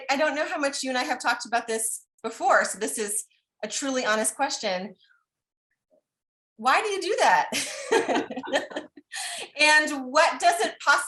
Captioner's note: laughter